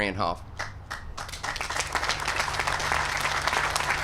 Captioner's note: applause